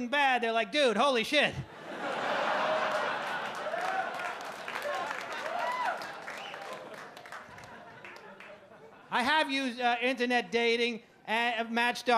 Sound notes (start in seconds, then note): 1.7 audience laugh